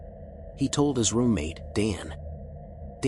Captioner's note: lowers voice